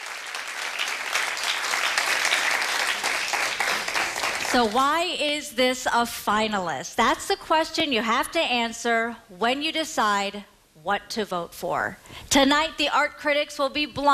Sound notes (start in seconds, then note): 2.3 applause